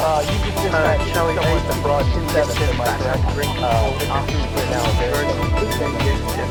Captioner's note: voiceover